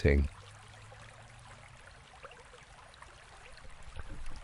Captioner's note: water lapping